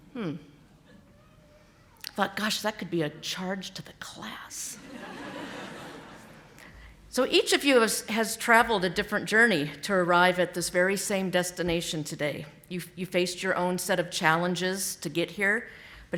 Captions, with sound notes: Hmm. I thought, gosh, that could be a charge to the class. (audience laughing) So each of you has traveled a different journey to arrive at this same destination today. You faced your own set of challenges to get here.